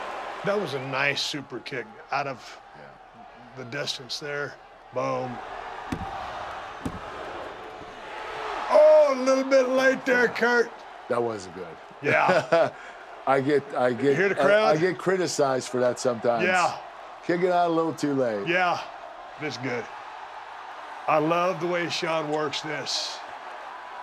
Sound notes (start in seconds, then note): 12.0 laugh